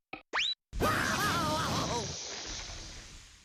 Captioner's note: Daffy crying